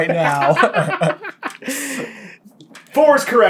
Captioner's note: cackling